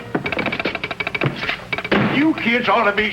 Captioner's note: telegraph ticking; door thuds